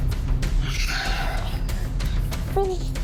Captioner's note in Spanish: Quejidos y gritos ahogados